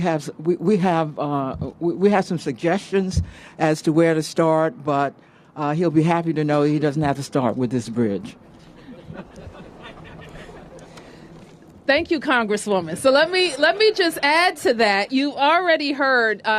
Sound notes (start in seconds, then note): 8.7 laughter